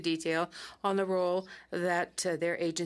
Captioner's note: speaking French